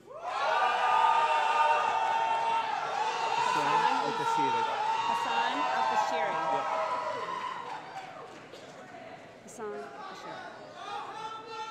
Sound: cheering

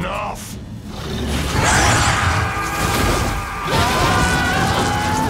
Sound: screaming

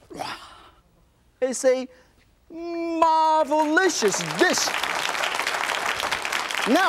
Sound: audience clapping

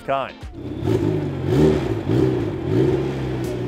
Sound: engine revs

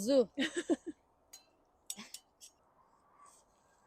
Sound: laughing

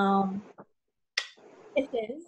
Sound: lips smacking

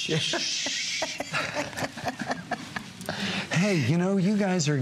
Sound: laughter

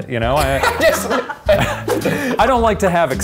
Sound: laughing

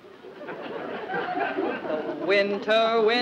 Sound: audience laughs

